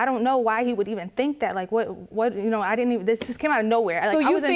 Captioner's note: stammers